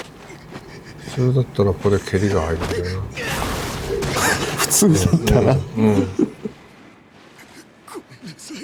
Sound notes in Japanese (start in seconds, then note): 6.0 笑い